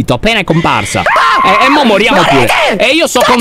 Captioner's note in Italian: urla